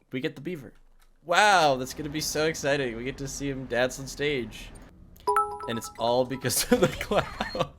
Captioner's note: laughs